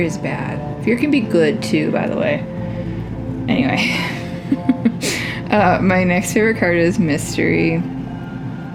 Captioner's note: laugh